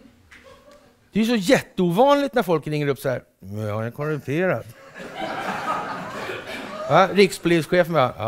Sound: laughter

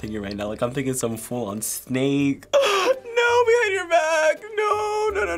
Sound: gasps

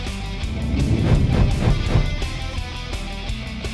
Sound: upbeat rock music; whooshing

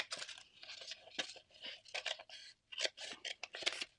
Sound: scissors cutting; paper rustling

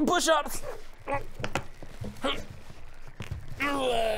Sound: useless straining noises

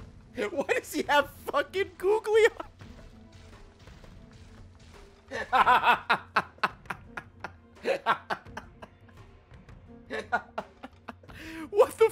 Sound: laughs

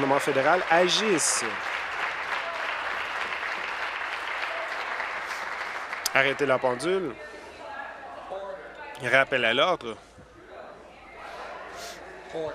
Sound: applause

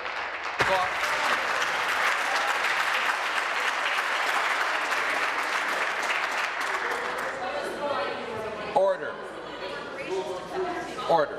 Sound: applause

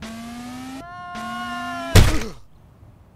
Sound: screaming - SPLAT

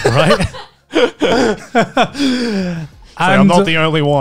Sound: all laughing

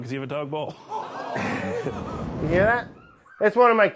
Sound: laughing; moans and groans

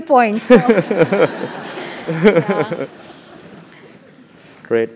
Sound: laugh

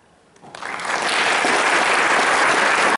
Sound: applause

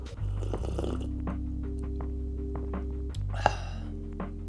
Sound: slurping

